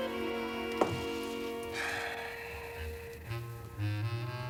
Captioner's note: sighing